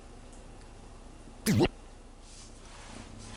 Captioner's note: swallow